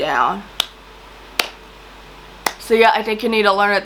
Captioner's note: clapping